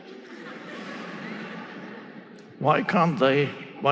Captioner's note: audience laughing